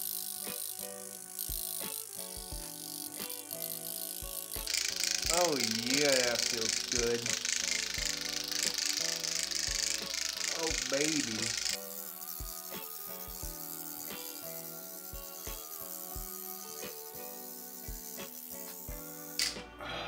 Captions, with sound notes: (microneedle buzzing) (microneedle clacking) Oh yeah, that feels good. Oh, baby. (light upbeat music)